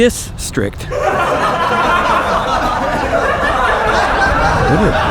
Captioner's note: laughs